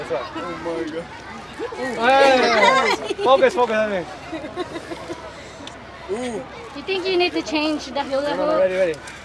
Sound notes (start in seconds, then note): 4.3 giggles